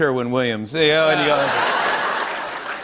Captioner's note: laughter; applause